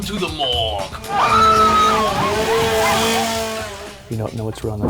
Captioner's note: screams